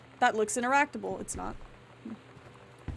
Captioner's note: none